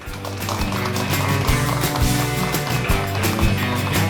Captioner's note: applause